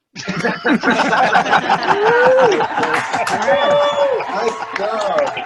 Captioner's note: laughing and cheering